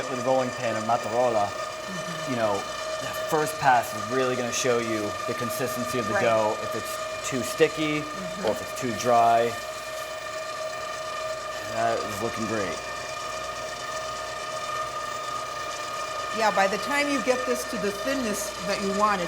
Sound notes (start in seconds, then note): 15.2 machine whirring